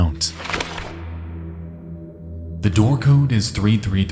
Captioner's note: note flutters